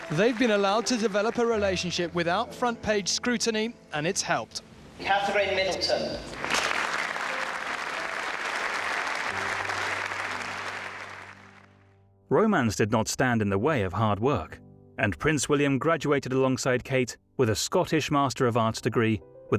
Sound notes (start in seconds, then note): 6.3 audience applauding